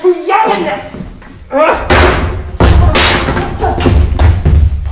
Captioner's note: staff clacking